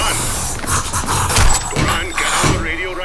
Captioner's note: heavy snorting